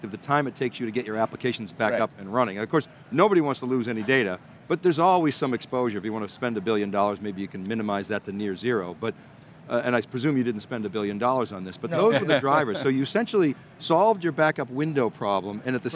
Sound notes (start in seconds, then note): 11.9 laughs